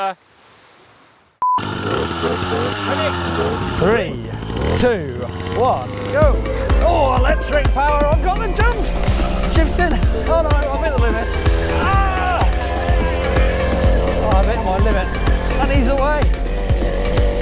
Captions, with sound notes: (motor revving) Ready? - Three, two, one! Go! Oh, electric power, I've got a jump! Shifting, oh I'm right in the middle of this. I'm at my limit, and he's away.